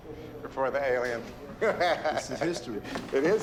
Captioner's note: laughs